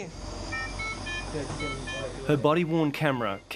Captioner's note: machine beeps